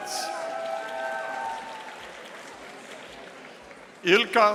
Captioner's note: audience applauding